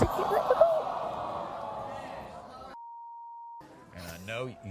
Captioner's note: audience jeering and swearing